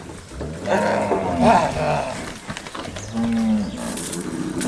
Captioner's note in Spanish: vaqueros gritando